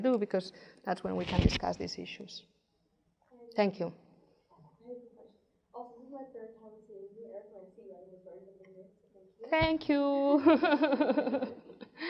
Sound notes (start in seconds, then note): 9.1 murmurs; 10.3 laughs